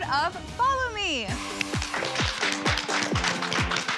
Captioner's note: applause